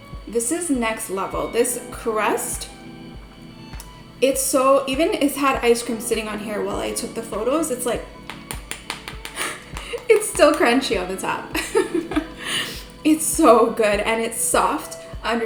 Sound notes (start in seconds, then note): 7.9 tap, tap, tap